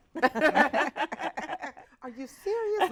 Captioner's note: both laughing